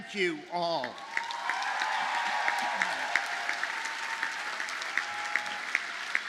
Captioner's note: audience cheers and applauds